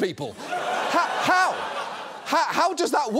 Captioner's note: audience laughs